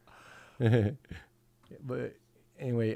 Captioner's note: chuckles